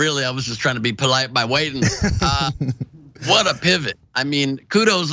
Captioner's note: laugh